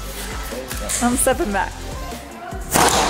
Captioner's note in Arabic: يضحك